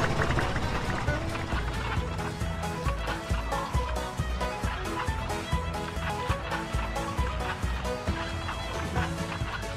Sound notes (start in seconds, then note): 1.8 cable car sound